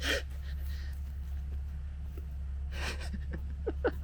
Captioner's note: laughs